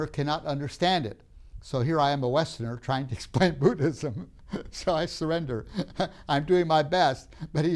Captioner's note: laughs